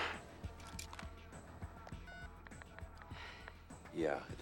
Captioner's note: dialing cell phone